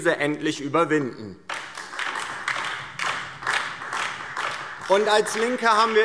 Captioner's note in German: Beifall DIE LINKE